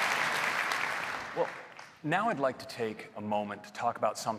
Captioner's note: applause